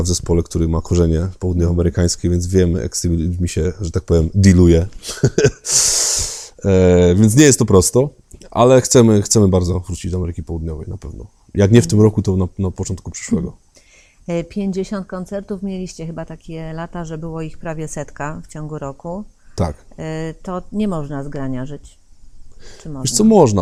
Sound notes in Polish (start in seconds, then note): 5.1 śmiech